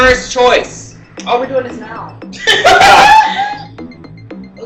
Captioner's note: cackling